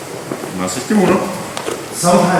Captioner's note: speaking in a foreign language